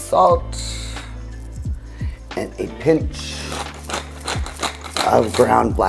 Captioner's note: pepper grounding